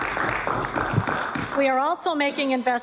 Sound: applause

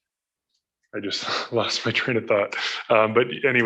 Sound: laughs

